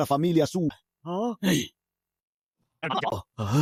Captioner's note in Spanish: Suspiro